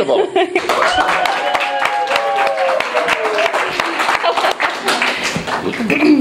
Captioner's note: applause and cheering